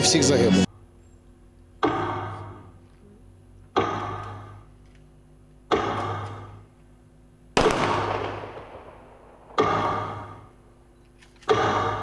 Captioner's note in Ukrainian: звук метронома і пострілів